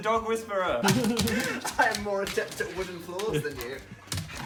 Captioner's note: laughter